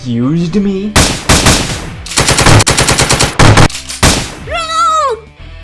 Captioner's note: gun fight